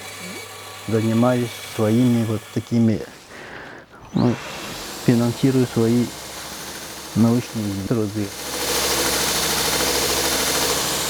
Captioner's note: snorts